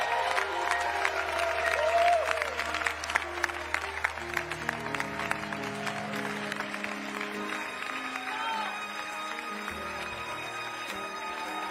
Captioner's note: cheering